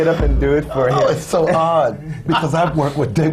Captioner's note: laughs